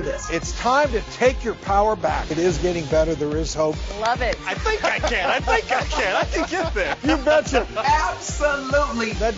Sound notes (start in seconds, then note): 4.0 claps